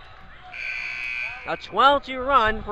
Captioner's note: buzzer rings